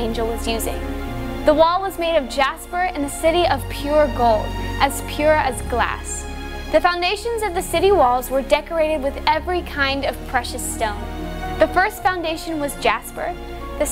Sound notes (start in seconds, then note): none